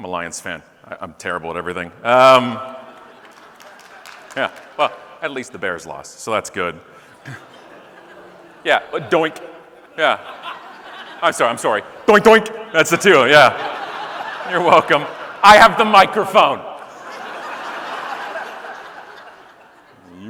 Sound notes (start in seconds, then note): 2.8 audience laughing, scattered clapping; 7.3 audience laughing; 8.9 scattered boos; 14.2 audience laughing; 17.9 audience laughing